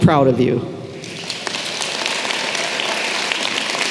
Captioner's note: applause